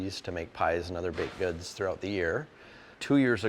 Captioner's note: equipment clacking distantly